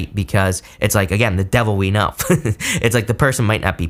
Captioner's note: laughs